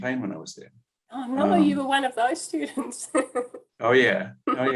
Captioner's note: laughing